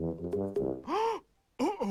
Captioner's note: gasping